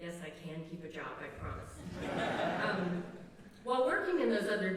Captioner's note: laughter